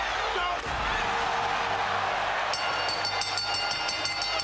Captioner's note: crowd cheers; bell rings